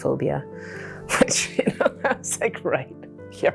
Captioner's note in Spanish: risas